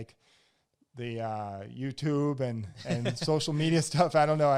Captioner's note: laughs